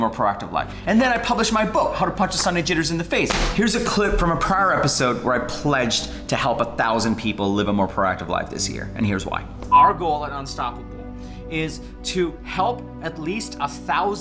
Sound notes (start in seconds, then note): 9.7 beep